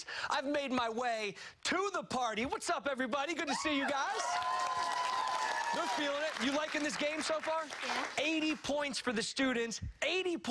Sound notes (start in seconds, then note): 6.4 cheers and applause